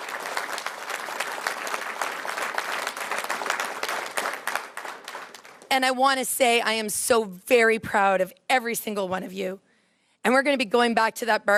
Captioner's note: applause